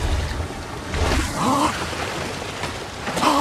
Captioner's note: exclaims